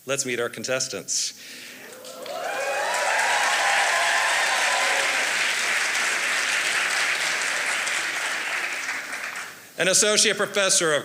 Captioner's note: applause